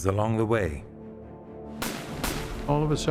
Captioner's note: gunshots